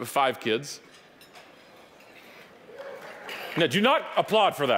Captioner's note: audience applauding